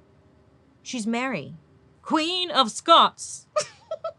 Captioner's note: laughs